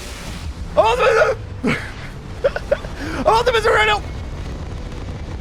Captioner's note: laughing